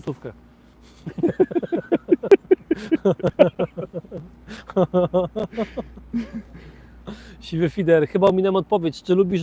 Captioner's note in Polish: śmiech